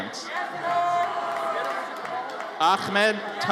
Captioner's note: audience cheers